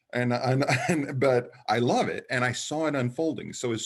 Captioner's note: chuckles